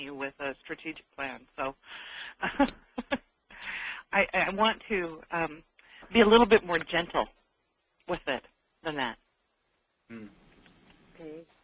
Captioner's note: laughs